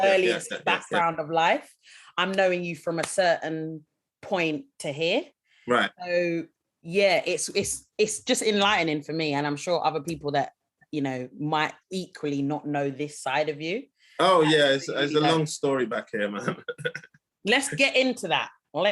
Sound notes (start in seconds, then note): 16.3 laughing